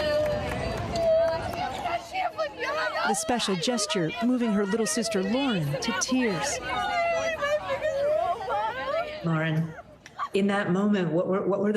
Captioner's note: applause